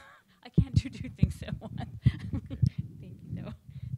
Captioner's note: laughs